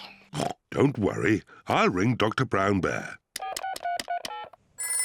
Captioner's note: coughs; oinks; beeping